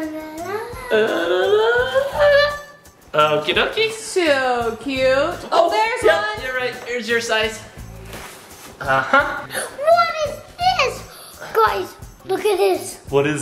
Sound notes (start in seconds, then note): 0.6 humming; 9.4 gasps